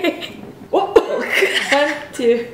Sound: laughs

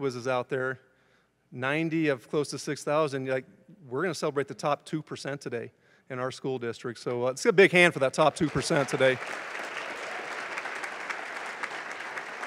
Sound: applause

